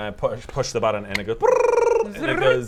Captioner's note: brrrrrr